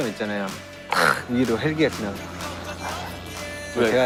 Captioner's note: helicopter flies over the stadium